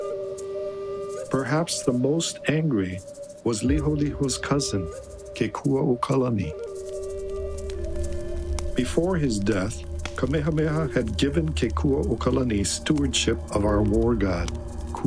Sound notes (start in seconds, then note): 7.0 fire crackling